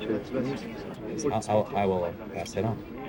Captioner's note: murmurs